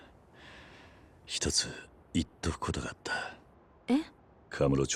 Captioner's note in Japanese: 息をのむ音